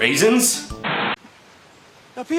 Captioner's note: static